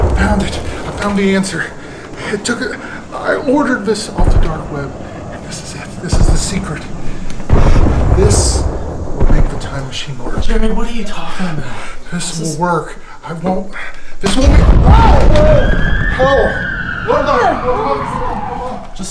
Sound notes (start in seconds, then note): 14.3 explosion booming; 17.0 all chattering